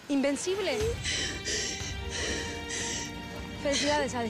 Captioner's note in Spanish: solloza